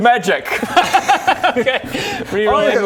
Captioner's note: defeated laugh